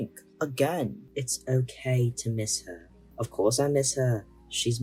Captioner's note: in silly def not British voice